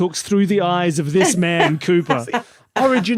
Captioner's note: laughs